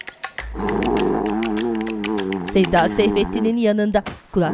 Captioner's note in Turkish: Horlama sesi